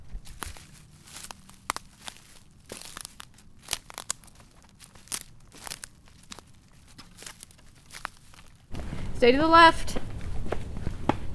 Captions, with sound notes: (underbrush crunching) Stay to the left.